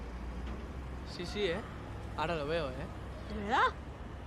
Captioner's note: spanyol